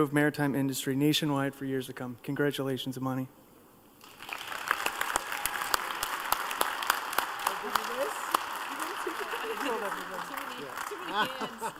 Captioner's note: applause